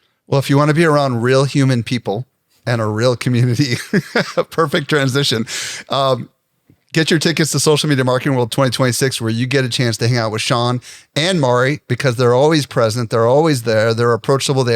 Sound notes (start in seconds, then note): 3.6 laughs